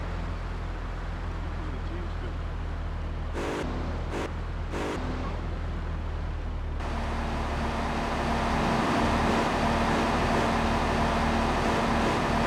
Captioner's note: engine revving